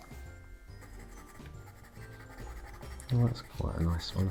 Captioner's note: pencil scratching